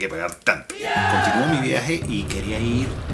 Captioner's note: cheer